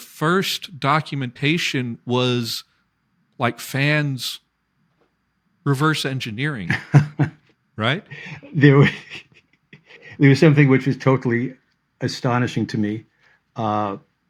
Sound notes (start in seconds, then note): 6.6 laughter; 6.7 laughs